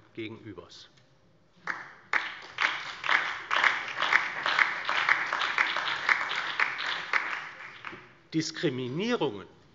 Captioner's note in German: Beifall DIE LINKE, BÜNDNIS 90/DIE GRÜNEN, SPD und Freie Demokraten